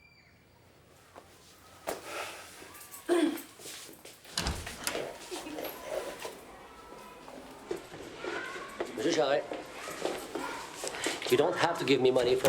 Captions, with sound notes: (Marie clears throat) - Mr. Charest, you don't have to give me money